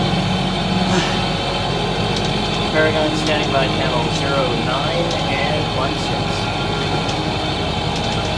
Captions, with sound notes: [ big sigh ] Paragon standing by channel 09 and 16.